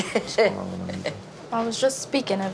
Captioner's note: woman chuckling